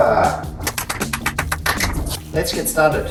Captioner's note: clapping